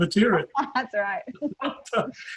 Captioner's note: laughs; chuckles